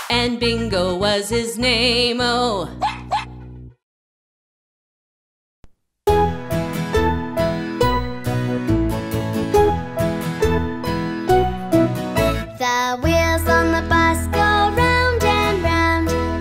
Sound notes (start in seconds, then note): 2.8 barking; 6.5 lively music